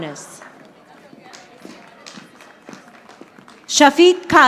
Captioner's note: audience applauding